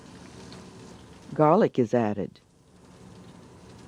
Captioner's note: voiceover